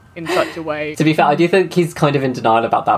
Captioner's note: laughs